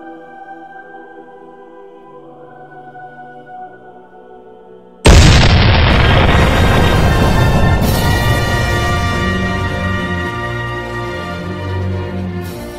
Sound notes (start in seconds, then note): 5.0 cannon Blast; 5.9 triumphant Music